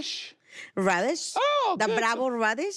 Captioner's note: high voice